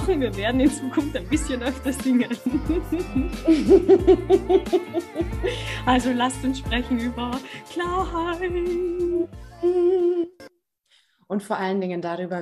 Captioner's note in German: lachen